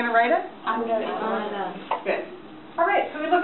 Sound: voiceover

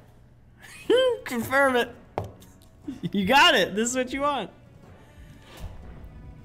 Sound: laugh

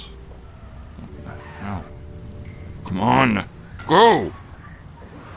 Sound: muttering

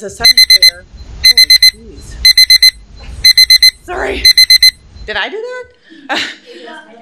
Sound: beeping

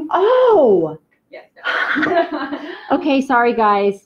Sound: both laugh

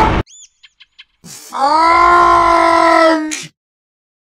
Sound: Peppino shouts

